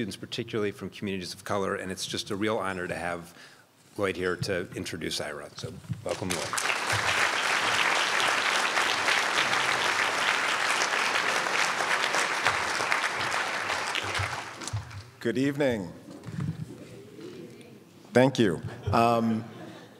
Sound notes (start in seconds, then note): 6.6 crowd applauds; 17.1 crowd